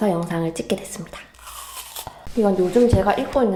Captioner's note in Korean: 아삭